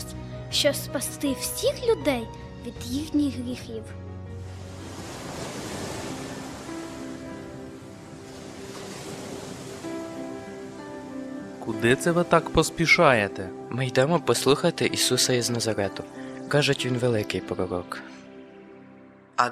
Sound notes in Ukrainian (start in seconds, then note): 4.3 Шум води